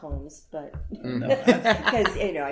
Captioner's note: laughter